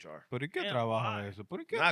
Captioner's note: speaking In Foreign Language